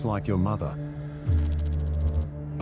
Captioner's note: electrical noise